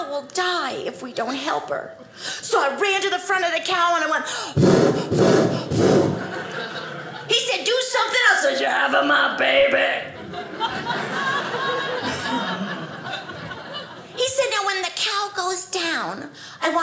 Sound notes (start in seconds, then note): 4.4 blowing hard; 9.8 audience laughing